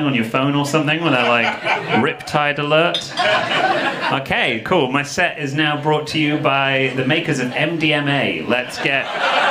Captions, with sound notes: on your phone or something? Where they're like "Rip tide alert." (audience laughing) Okay, cool, my set is now brought to you by the makers of MDMA,